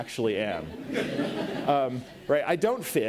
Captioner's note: audience laughs